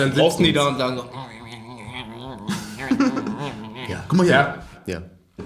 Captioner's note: grumbling noises